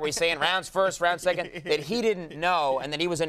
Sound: chuckling

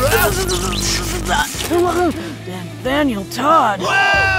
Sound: zap!; grunt

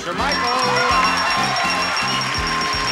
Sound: bell dings repetitively; applause

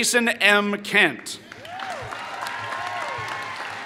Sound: applause

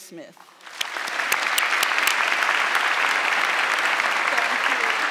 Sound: audience clapping

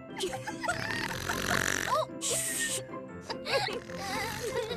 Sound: loud Snoring; laughter

